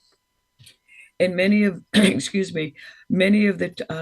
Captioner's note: clears throat